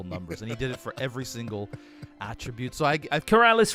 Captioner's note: giggles